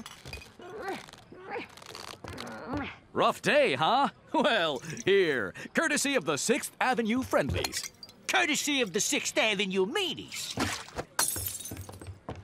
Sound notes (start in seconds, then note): 2.2 grunting; 11.1 glass shatters